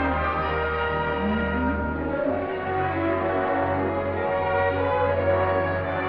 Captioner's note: bell